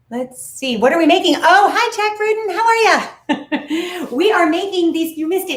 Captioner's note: laughs